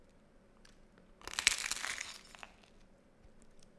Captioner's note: biting into crunchy toast